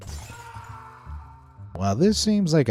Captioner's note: Cheval screams